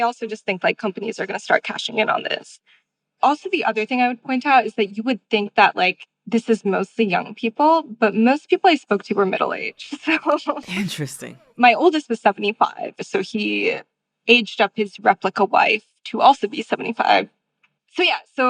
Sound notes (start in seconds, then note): 9.9 laughter